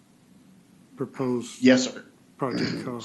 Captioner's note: clearing throat